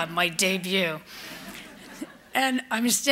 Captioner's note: laughter